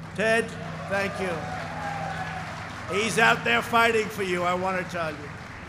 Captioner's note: applause